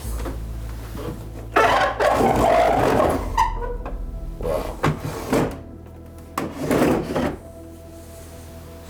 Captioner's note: opening and closing drawers